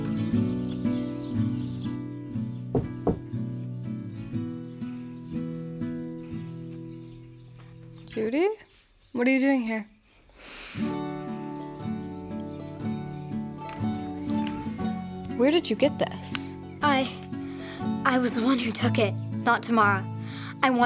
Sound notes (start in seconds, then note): 2.7 Judy knocks